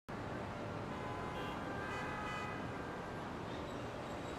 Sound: cars honking; city traffic sounds

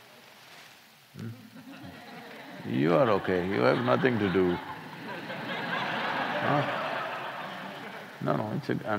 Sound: laughter

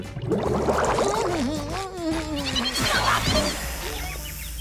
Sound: humming

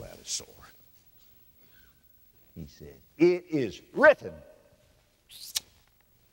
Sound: pastor makes sound of a sword

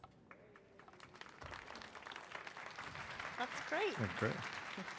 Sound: crowd applauding

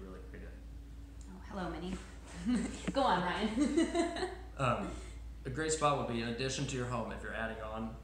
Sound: laughing

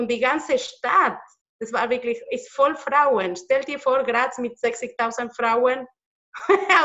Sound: laughs

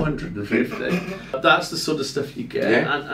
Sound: laughing

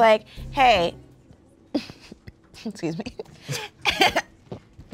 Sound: laughs; laughs then gags

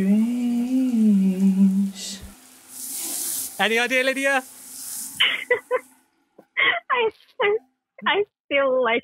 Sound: laughs

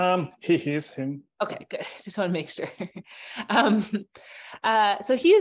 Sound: chuckles

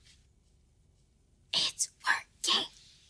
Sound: whispering

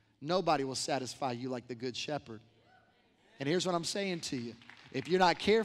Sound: applause

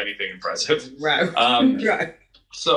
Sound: laughs

